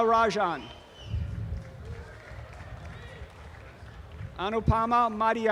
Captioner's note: audience applause